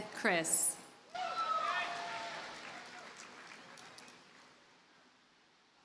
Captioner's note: audience cheers and applauds